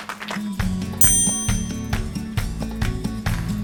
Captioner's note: clapping; chimes